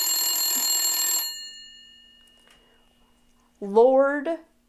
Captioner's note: Hellophone ringing